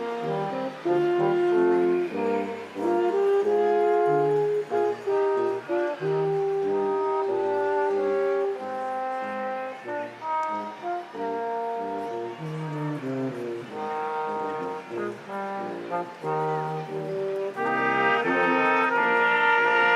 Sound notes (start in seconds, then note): 8.3 crowd applauding; 8.3 instrumental music continues